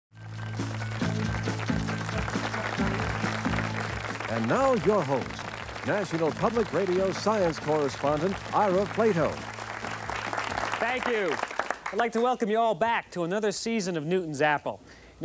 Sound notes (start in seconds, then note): 0.8 audience applauds